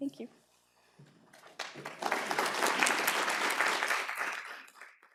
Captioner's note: applause